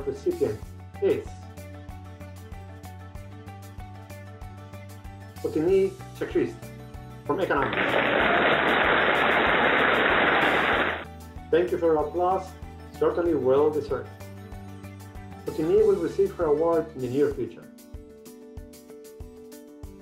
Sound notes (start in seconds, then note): 7.5 applauding